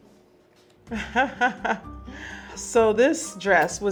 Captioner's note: Serena laughing